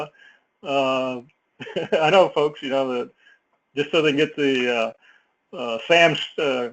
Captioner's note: laugh